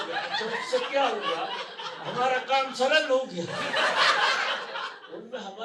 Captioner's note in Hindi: हंसी